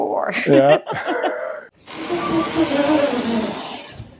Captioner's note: laughs